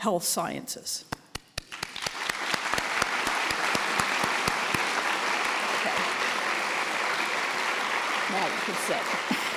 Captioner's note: applause